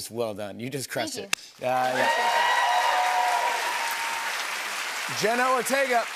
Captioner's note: cheers and applause